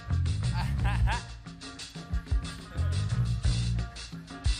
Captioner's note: performer laughs